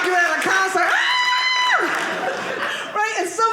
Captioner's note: screaming